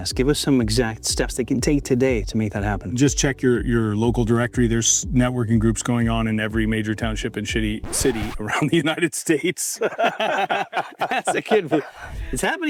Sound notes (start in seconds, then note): 7.8 tape rewinds; 9.7 both laughing